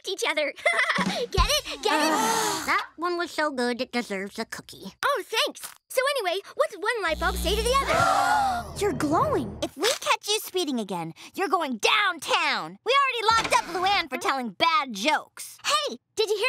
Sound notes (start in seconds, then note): 0.3 laughing; 7.6 gasping